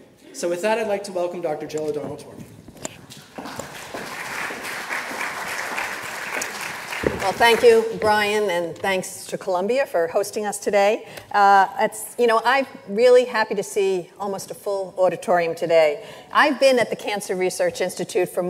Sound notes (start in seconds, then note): 3.2 audience applauds